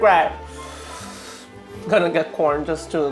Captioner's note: inhales